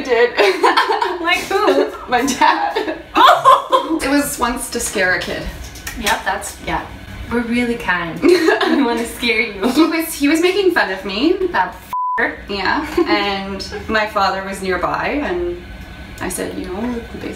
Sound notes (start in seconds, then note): 0.1 laughs; 3.5 laughing; 11.9 beeping